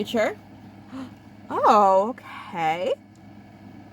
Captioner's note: gasp